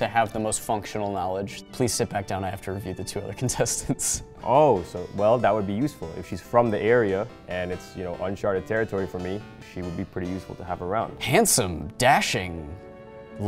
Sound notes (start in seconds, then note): 3.6 laughs; 11.2 dramatic, romantic music